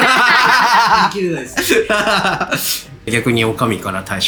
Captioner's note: laughs